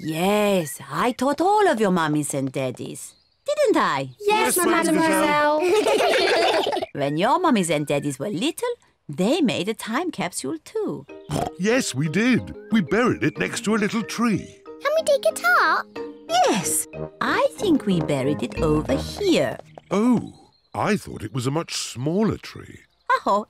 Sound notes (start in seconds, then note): 5.0 all laugh; 11.2 oinks